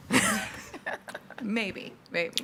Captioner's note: laughs